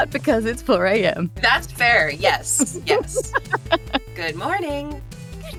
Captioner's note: laughs